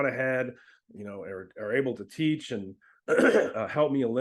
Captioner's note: clears throat